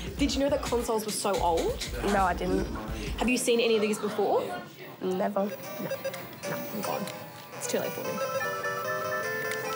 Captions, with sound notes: Did you know that consoles were so old? No, I didn't. Have you seen any of these before? Never. (GAME BEEPS, TRILLS)